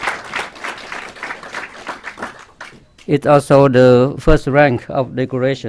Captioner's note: clapping